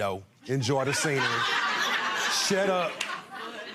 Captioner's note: laughing